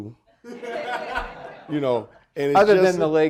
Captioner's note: audience laughing